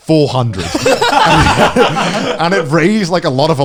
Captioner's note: all laughing